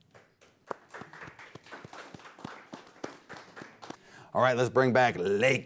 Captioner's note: audience applauding